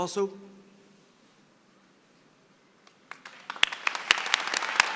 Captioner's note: applause